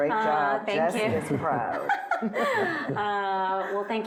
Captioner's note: laughing